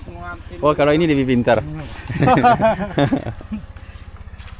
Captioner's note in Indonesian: tertawa